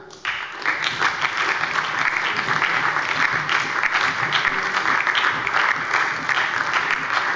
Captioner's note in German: Beifall bei der SPD und der LINKEN